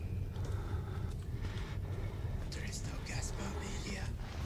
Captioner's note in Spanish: Susurrando